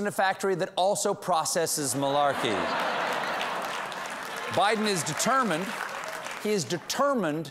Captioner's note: laughter; applause